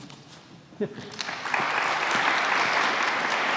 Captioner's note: applause